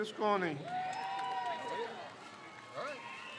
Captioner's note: crowd cheers